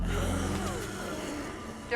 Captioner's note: growling